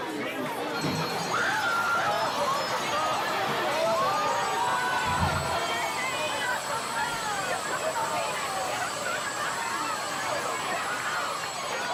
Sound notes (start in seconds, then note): 1.0 bells ringing; 6.4 background chatter